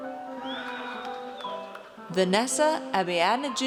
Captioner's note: audience cheers